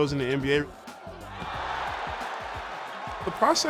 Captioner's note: crowd cheering